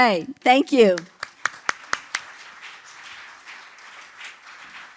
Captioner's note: applause